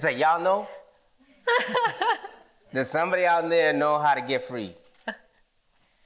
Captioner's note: laughter